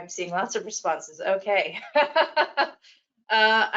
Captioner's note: laughs